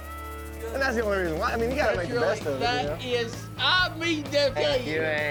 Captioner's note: men chattering